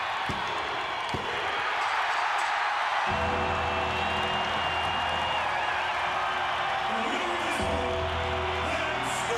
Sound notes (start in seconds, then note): 3.1 bell ringing